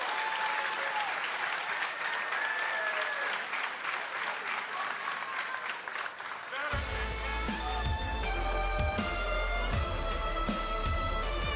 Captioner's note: applause